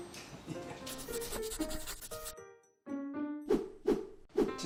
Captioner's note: pencil scratching; air whooshing